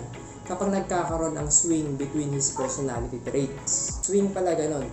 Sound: bork

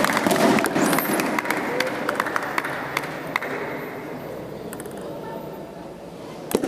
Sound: applause

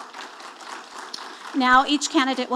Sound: audience applauding

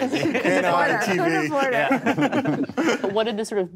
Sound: all laugh

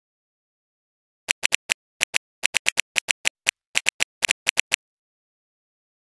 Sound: sound of electric device

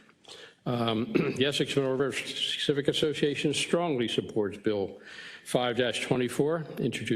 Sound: cough

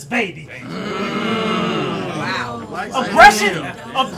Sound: audience yells

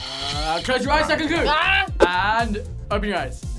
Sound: yells

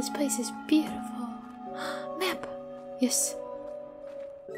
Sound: gasp

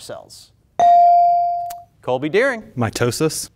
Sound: buzzer pings

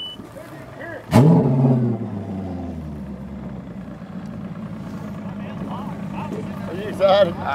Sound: engine rumbling

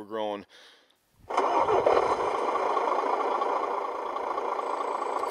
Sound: bulldozer engine starts

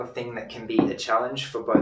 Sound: ball thuds

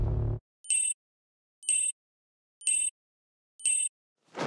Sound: buzzer beeping

